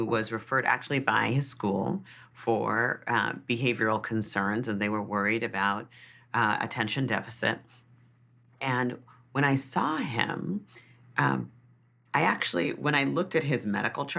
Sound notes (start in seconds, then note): none